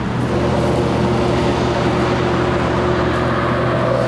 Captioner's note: traffic humming